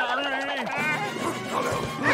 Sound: grunting; screaming

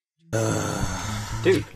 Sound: groaning

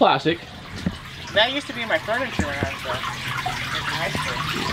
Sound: speaks faintly

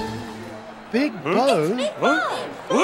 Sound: crowd

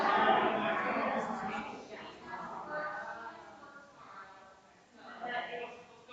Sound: people chattering distantly continues

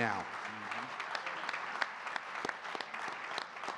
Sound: audience clapping

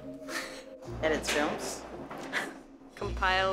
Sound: laugнs

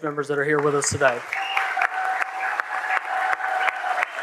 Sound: applause

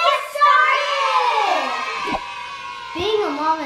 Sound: applause

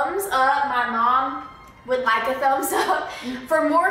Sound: laughs

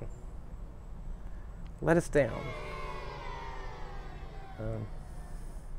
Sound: children booing in the background

